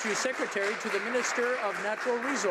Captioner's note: some Applause